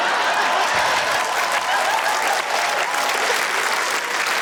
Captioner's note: laughter, cheering, applause